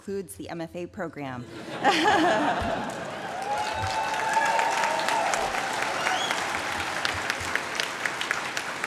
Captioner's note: laughter, applause